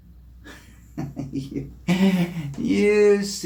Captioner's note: chuckles